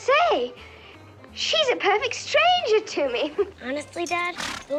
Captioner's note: slight laugh